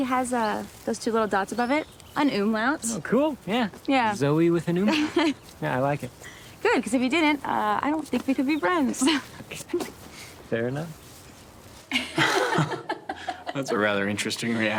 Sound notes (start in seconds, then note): 4.9 Zoe laughs; 9.1 both chuckle; 11.9 Rachel and Kevin laughing